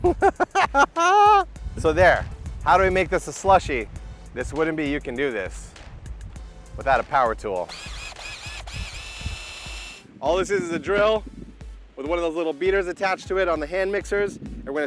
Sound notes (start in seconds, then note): 0.0 laughs; 7.6 drill whirs